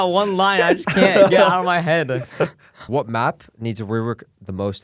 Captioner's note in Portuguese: risos